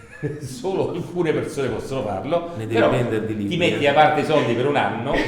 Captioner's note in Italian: risatina